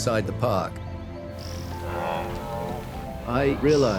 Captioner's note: grunting